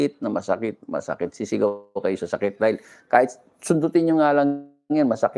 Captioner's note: sniff